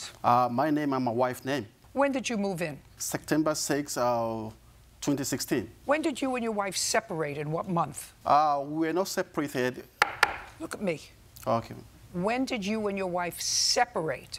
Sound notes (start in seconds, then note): 10.0 gavel bangs